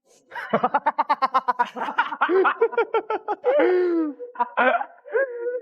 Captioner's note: hahaha